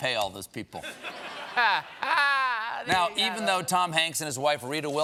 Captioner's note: laughter